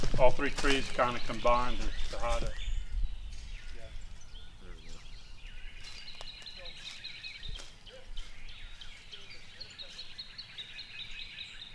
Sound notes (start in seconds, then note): 2.9 birds chirping